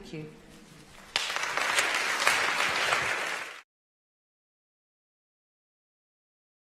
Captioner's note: applause